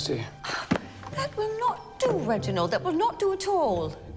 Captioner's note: sighs